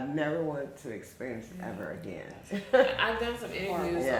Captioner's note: chuckles